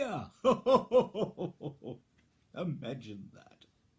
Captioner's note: big happy chuckle